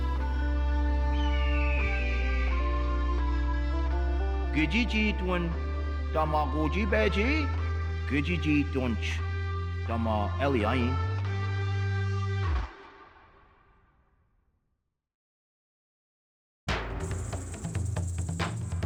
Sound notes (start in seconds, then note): 6.0 speaking Passamaquoddy